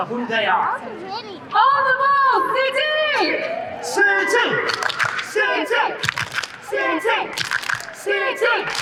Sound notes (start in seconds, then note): 4.1 chanting; 7.3 claps